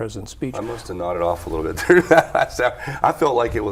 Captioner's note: laughs